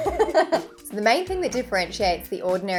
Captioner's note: laughing